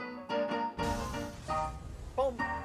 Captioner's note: cheerful piano music; sizzling